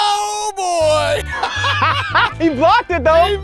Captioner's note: laughing